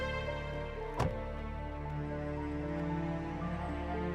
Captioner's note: door shuts